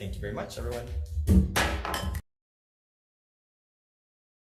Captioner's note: gavel bangs